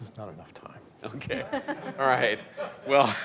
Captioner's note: laughing